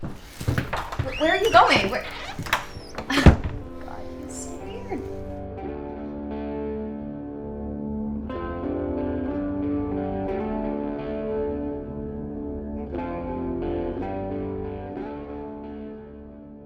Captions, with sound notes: Where are you going? (door latch clicks) (door thuds) My God, he's so weird. (gentle guitar music)